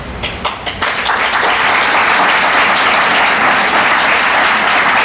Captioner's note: audience applauding